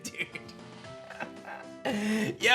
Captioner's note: chuckles